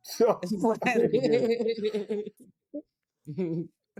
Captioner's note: laughing